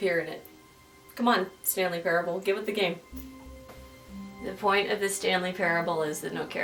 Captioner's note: confidential tone